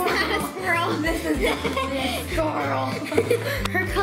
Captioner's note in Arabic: يضحك